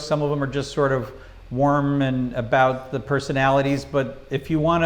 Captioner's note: none